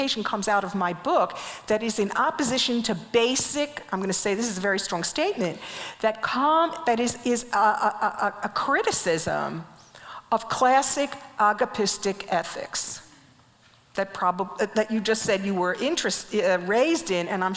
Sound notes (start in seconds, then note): none